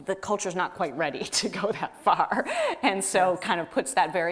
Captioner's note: laughs